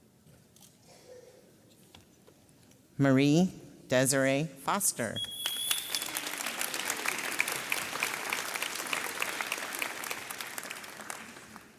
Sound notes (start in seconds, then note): 5.4 audience applauds